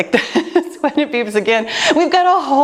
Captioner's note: laughs